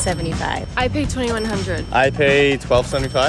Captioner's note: cash register dinging